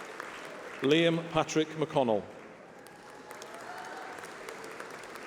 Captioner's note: applause